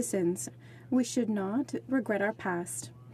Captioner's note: speaking French